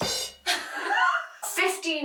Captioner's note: both laughing